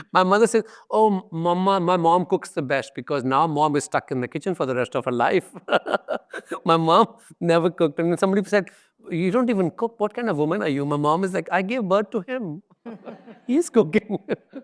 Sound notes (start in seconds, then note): 5.6 laughs; 12.9 audience laughs